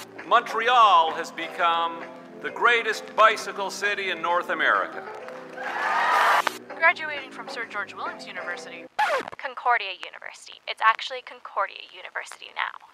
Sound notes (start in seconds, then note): 5.5 applause